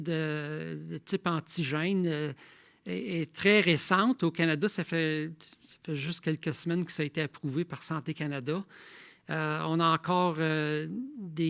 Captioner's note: speaking in French